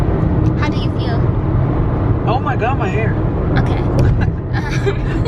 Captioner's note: laughs